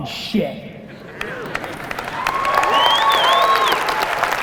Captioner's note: audience applause